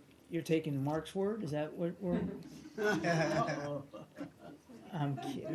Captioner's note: laughter